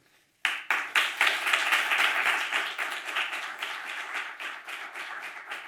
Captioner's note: audience and panelists applaud